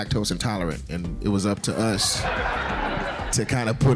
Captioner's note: laughing